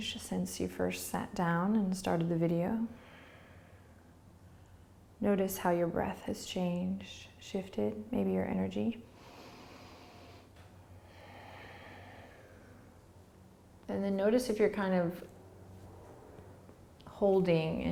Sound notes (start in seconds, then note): 10.9 breathing